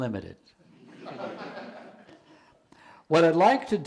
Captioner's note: audience laughing